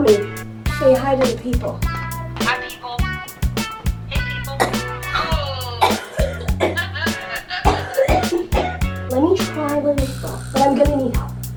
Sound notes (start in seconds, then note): 5.8 continues coughing; 7.3 laughs